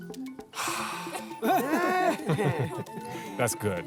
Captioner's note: laughter